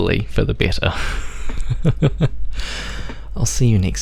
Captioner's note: laughs